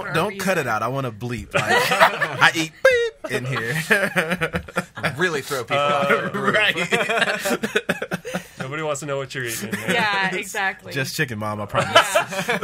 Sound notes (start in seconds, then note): 2.7 imitates beep; 4.2 laughs